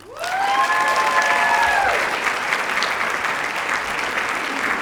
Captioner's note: cheers, applause